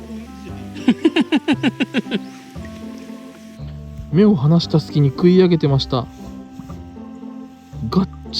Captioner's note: laughs